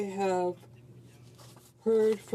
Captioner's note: speaking in French